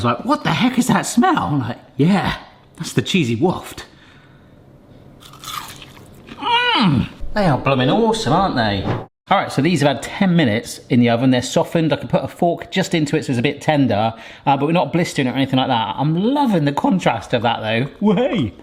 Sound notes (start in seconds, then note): 5.2 potato crunching; 5.3 humming